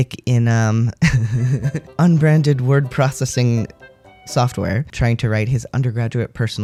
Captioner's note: laugh